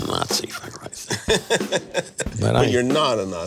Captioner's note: laughing